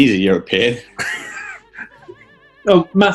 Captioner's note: laughing